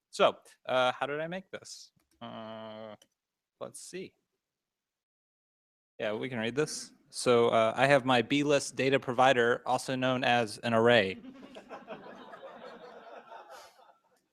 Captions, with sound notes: So how did I make this? Let's see. We can read this. So I have my bee list data provider, also known as an array. [LAUGHTER]